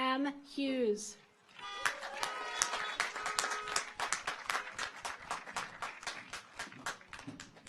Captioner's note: audience applauds; car horns honking